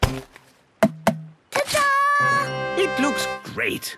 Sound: tapping

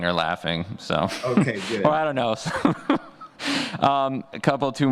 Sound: laughs

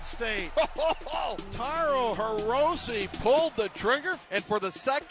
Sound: laughing

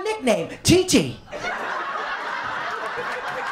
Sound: laughter, applause, and cheering

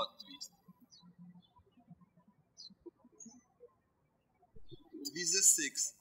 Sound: birds chirping

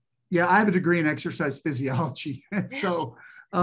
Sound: chuckles

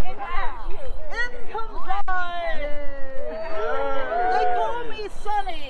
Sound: cheers

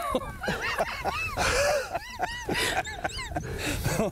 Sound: men laugh

